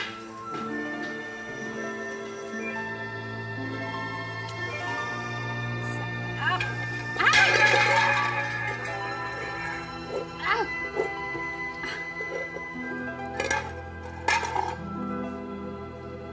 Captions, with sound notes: This is gonna be delicious. -Oh! -[plate clatters] Oh. [witch grunts]